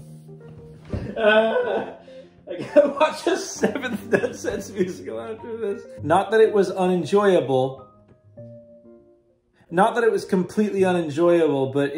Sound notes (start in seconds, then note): 0.0 laughing, groaning; 0.7 big groan